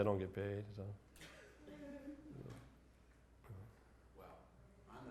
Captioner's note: giggles